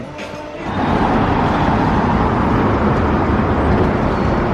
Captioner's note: heavy traffic